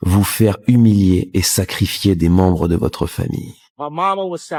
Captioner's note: french dialogue continues